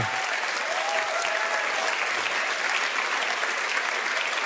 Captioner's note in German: Jubel, Applaus